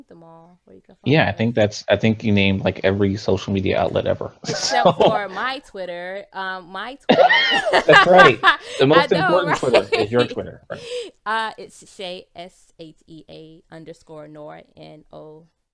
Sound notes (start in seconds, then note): 3.2 laughs; 7.1 both laughs